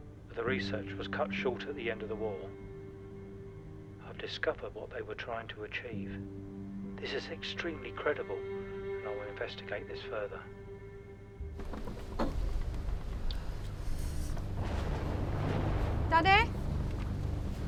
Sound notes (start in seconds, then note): 11.5 rain pattering; 14.3 thunder cracking